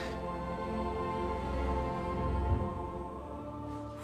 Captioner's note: none